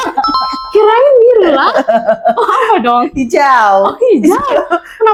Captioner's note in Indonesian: tertawa